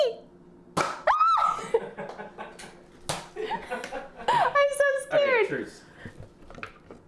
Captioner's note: screams